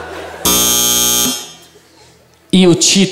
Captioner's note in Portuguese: campainha